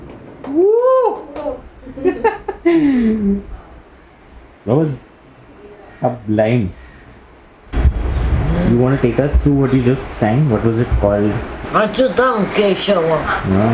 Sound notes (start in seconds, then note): 1.8 laughs in a joyful tone